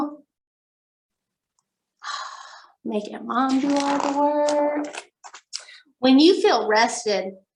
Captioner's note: sigh